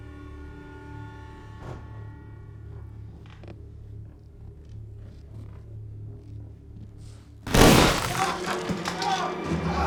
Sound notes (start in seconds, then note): 7.4 shotgun blast